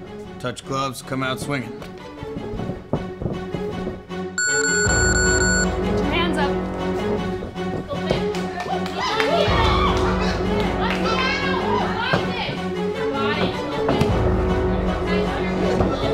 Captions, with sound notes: Touch gloves, come out swinging. (buzzer) Get your hands up! (cheering) (cheering)